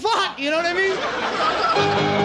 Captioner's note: audience laughing; fast paced piano chords